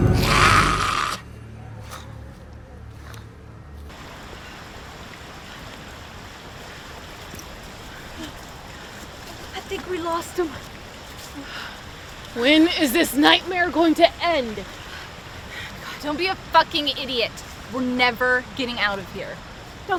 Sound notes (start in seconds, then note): 0.0 Goocher growls; 8.1 Macy gasps